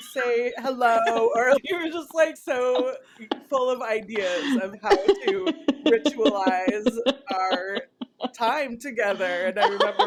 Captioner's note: laughter